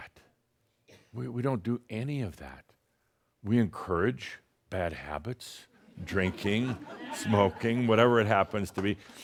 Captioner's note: laughter